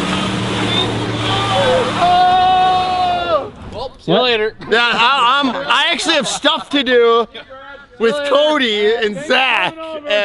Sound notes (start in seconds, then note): 1.8 yelling